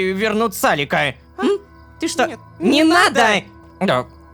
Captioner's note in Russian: хором